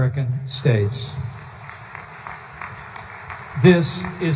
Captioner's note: applause